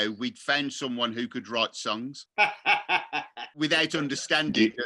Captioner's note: laughs